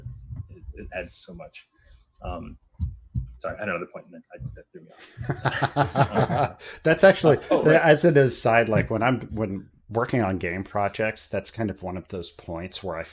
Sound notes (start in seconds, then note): 4.9 laughter